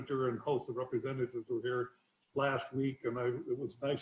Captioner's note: murmurs